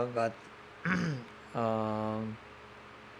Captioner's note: clears throat